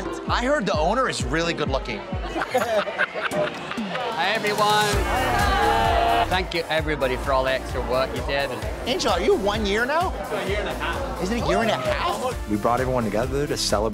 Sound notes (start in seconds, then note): 2.1 all laughing